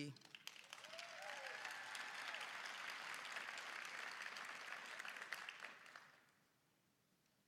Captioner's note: applause